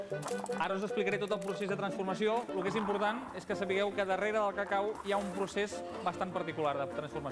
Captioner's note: non-english speech